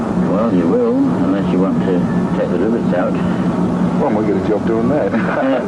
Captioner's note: laughter